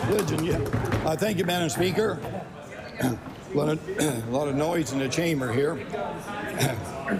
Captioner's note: applause